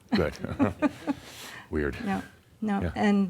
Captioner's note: they chuckle